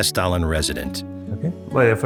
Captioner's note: speaking Norwegian